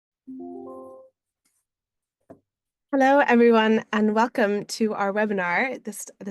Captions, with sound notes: (computer bleeping) - Hello, everyone, and welcome to our webinar